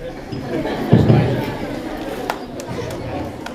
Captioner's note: laughter